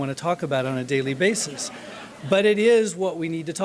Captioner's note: laughter